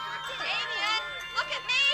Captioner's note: children Laughing